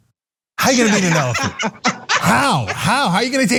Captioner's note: laugh